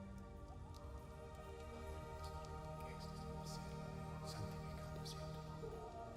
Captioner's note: quietly praying in foreign language